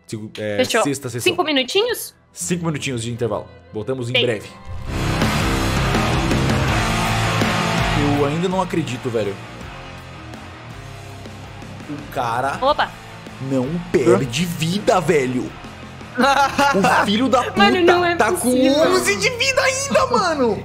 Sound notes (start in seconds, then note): 16.1 laughs